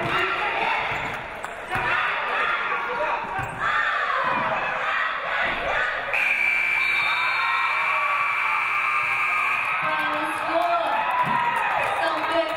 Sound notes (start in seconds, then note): 6.2 game buzzer buzzes; 9.0 audience cheering